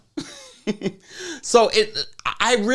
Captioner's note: laughs